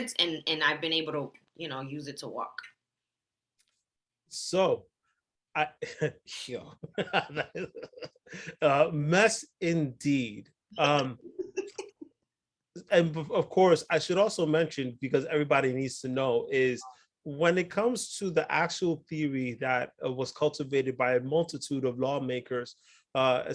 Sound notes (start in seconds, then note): 7.0 laughing; 11.2 laughs